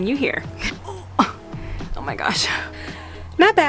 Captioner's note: grunts